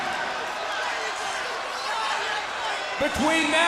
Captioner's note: crowd cheering